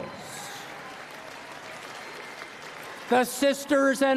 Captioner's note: applause